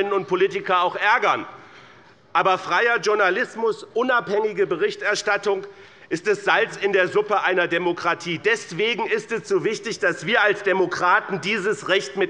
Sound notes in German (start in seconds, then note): none